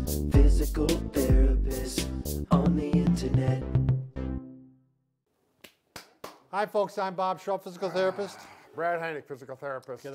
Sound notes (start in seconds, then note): 5.6 claps